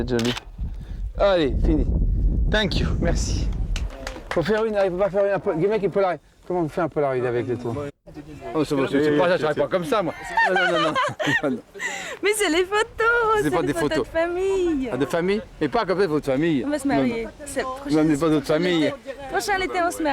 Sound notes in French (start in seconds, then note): 10.1 rires